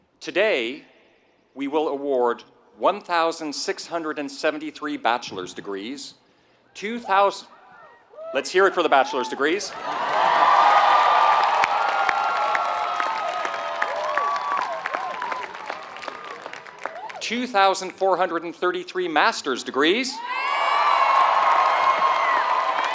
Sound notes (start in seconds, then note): 9.7 applause; 20.6 applause